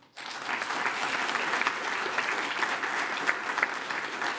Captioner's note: attendees applaud